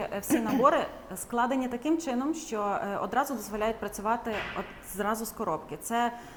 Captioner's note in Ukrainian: прочищення горла